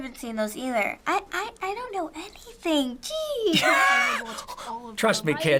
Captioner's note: laughing